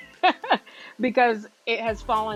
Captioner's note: laughs